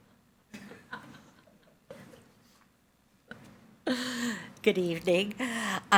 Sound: attendee chuckles

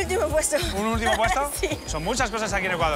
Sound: laughs

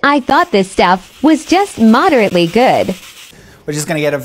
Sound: scourer scratching

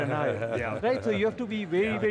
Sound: laughs

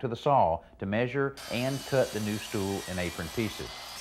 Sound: circular saw buzzing

